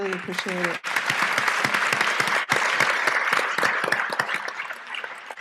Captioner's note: applause